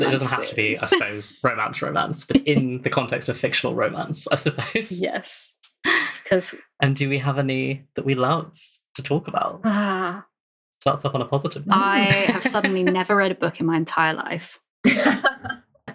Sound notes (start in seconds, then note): 2.3 laughs